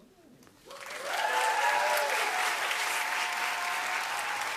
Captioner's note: cheering and applause